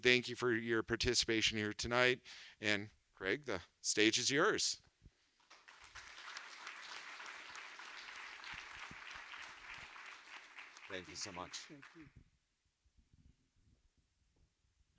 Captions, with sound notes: Thank you for your participation here tonight. And Craig, the stage is yours. (audience applauds) Thank you so much. Thank you.